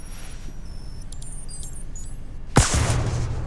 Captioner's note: machine chirps; gun fires